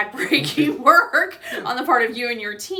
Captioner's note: laughs